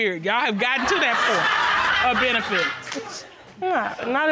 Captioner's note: audience laughs